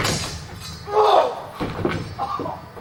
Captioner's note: guy moans in pain